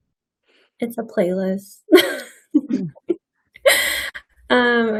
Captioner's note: laughs